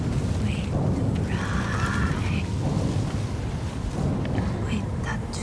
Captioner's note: speaking foreign language